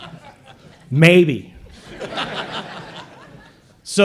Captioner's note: laughter